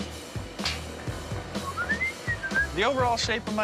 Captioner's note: whistling